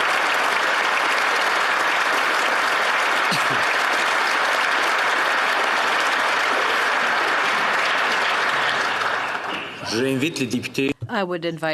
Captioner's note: applause